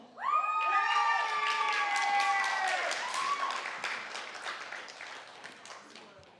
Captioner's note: applause, cheering